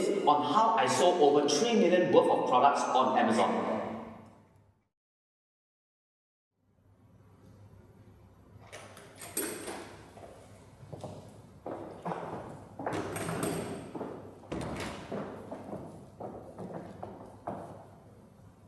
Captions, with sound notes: on how I sold over $3 million worth of products on Amazon. [Sounds of a door opening and closing, and footsteps in high heels]